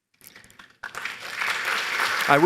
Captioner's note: applause